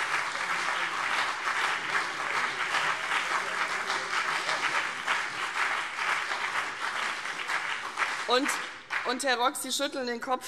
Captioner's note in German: Beifall CDU und BÜNDNIS 90/DIE GRÜNEN